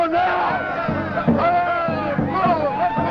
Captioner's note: cheering